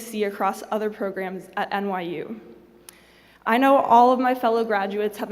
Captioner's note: none